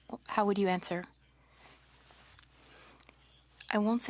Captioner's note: speaking French